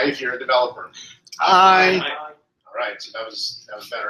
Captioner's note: multiple voices